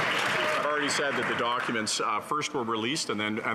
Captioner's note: some Applause